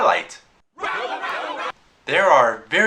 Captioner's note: angry crowd